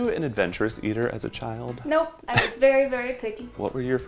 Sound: laughs

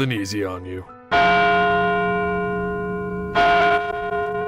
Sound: gong chiming

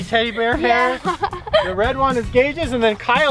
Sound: laughs

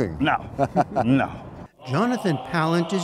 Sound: laughter

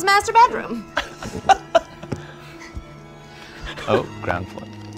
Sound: laughter

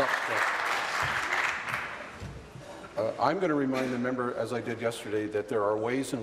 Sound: applause

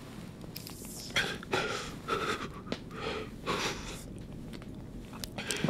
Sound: Damien breathing heavily

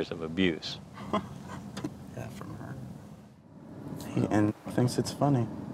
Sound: chuckles

